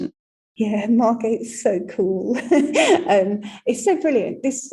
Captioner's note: laughing